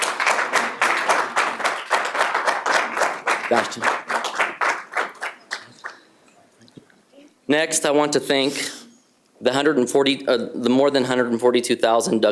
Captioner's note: applause